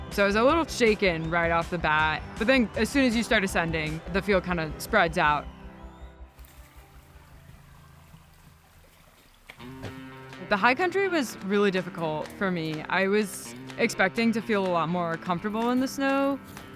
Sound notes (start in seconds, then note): 6.3 water flowing; 6.4 ambient music